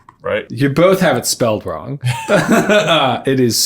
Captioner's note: laughs